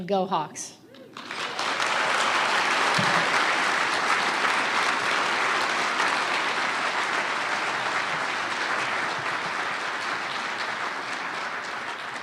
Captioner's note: applause